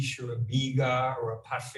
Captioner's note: speaking in a foreign language